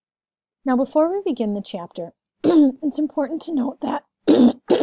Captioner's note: clears throat several times; clears throat